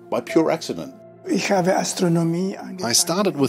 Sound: Dr. Kohoutek speaks in German

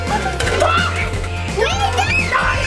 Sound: dad screams

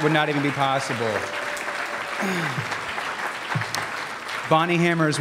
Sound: cheers

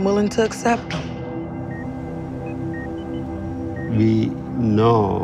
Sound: monitors beeping

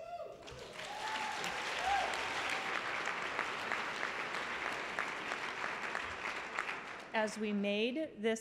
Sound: applause

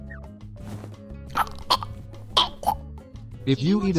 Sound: choking sounds

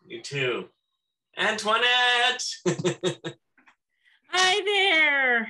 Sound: laughs

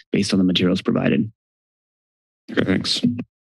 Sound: silence

